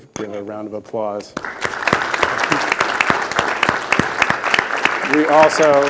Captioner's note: attendees applauding